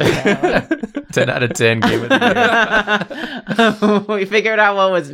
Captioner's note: laughter